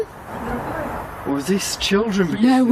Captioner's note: disembodied Voice